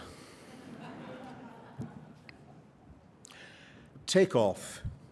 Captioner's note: laughter